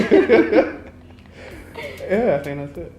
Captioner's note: both laughing